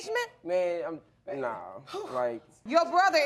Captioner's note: gross sighs